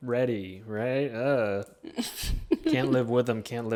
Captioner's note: chuckles